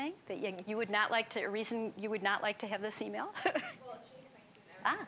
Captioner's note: chuckling